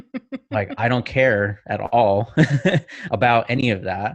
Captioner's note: chuckles; chuckling